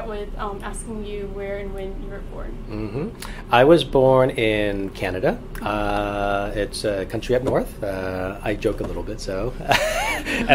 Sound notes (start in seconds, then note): 9.6 laughs